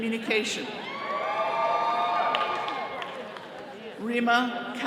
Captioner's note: all cheering